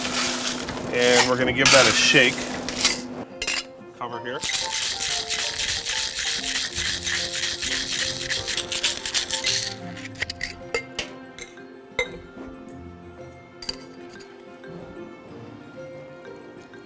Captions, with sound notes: and we're gonna give that a shake. Cover here. (ice rattling)